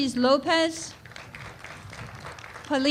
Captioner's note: applause